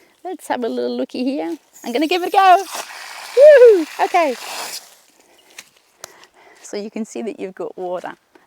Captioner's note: water splashes